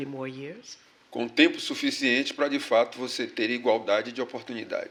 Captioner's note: speaking portuguese